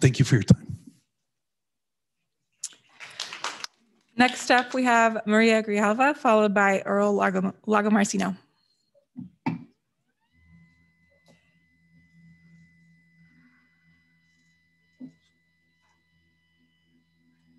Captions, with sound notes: Thank you for your time. (audience cheering) - Next up. We have Maria Grijalva, followed by Earl Lagomarsino.